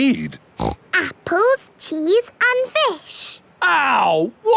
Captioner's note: snorts